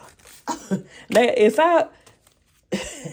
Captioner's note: laughs